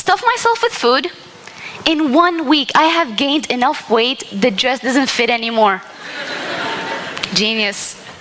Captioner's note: laughter